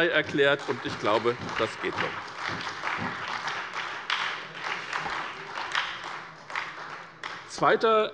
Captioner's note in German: Beifall bei der SPD